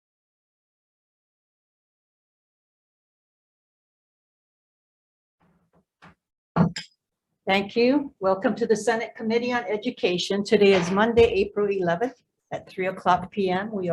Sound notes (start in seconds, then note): 6.6 gavel banging